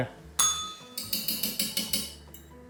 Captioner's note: bell rings